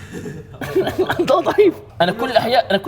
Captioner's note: laughs